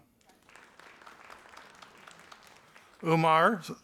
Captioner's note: audience applauding